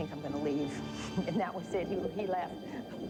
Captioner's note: laughs